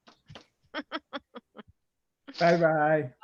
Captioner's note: chuckling